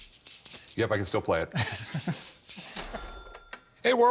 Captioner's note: both laughing